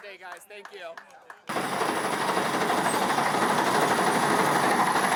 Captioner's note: trencher rattles